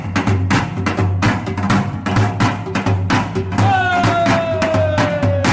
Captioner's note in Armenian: ծափահարություն